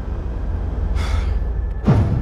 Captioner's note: Michael sighs; light dramatic music